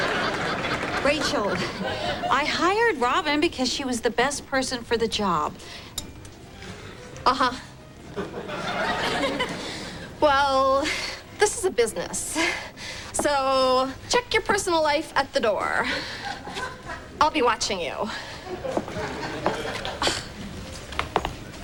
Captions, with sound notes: RACHEL, I HIRED ROBIN BECAUSE SHE WAS THE BEST PERSON FOR THE JOB. UH-HUH. WELL... THIS IS A BUSINESS, SO... CHECK YOUR PERSONAL LIFE AT THE DOOR. I'LL BE WATCHING YOU. ( groans )